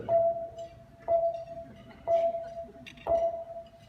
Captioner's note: ECG beeps